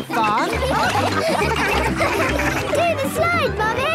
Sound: all laughing

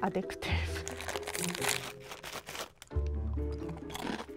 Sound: package rustling; crunching

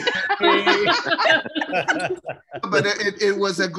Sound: laughter

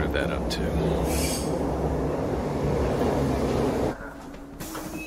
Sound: screeching halt; door beeps

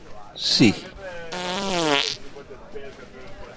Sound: passing wind

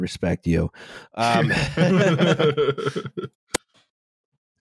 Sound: laughter

